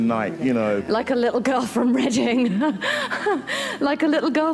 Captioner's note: laughs